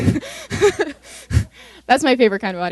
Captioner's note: laughter